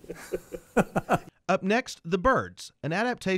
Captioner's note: chuckling; voiceover